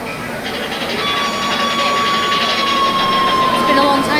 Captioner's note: train whistle